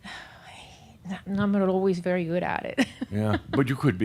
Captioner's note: she chuckles